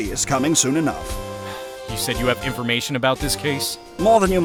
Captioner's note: sigh